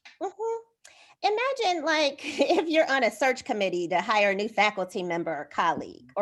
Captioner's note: laughter